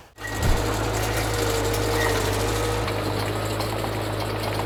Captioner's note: machine running